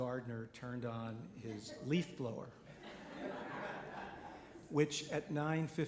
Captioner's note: audience laughing